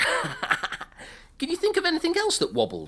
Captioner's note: laughing